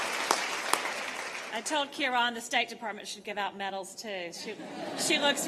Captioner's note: laughter